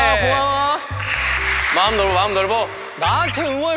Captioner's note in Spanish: Aplausos